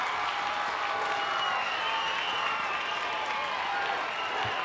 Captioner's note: crowd cheers